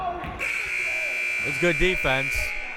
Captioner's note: buzzer